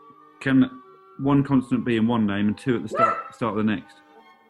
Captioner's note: dog barks